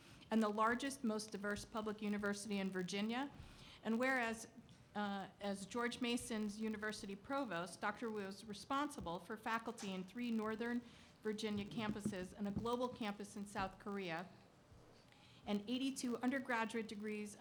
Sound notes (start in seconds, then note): none